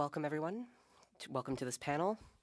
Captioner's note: speaking French